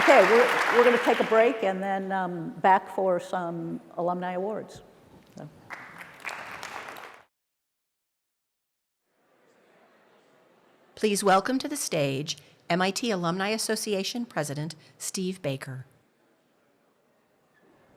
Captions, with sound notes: OK, we're going to take a break and then back for some alumni awards. [APPLAUSE] Please welcome to the stage MIT Alumni Association President Steve Baker.